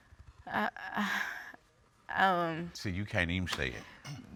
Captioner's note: sighs